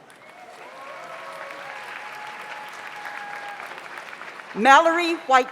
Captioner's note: audience applauds; audience cheers